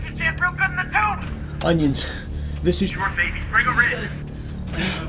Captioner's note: grunting